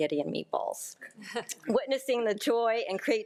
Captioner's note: board member laughing